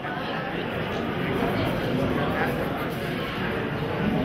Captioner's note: audience chattering